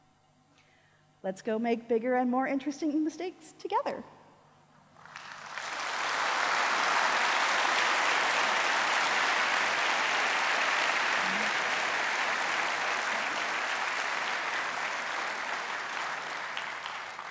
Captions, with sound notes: Let's go make bigger and more interesting mistakes together! [audience applause]